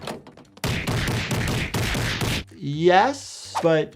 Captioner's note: punches splat